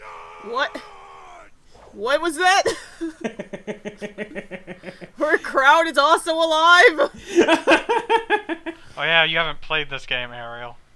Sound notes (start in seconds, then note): 2.7 laughing like an idiot; 7.2 more laughing like an idiot